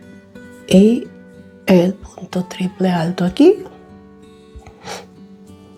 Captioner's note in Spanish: resoplido